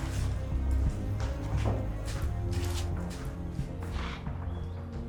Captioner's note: footsteps